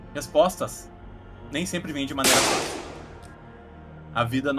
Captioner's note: shot rings out